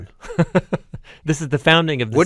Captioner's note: chuckles